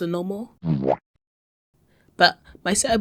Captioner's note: Spongebob Womp sound